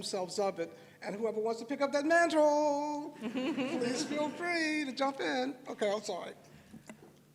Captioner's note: laughter